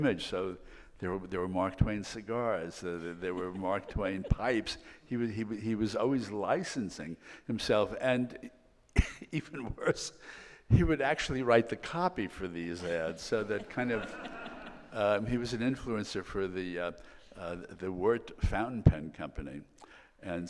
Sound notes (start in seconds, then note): 8.6 laughs; 14.4 audience laughing